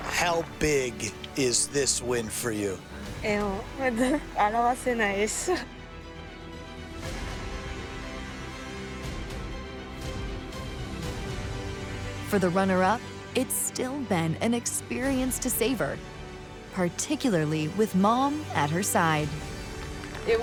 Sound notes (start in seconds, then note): 3.3 speaking in foreign language; 9.1 triumphant music